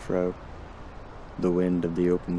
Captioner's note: wind howls